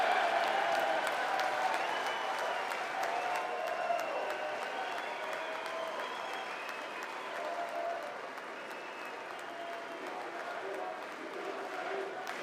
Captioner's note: audience chants "USA"